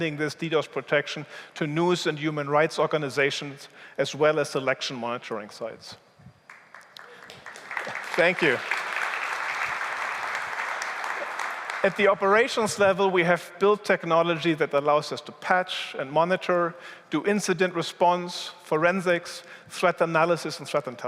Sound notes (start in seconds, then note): 6.4 applause